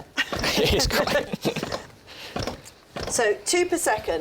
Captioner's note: both laughing